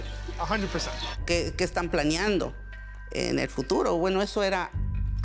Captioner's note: speaking Spanish